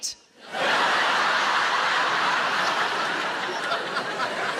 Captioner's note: audience laughing